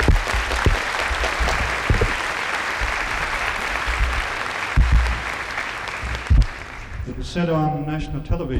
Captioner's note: clapping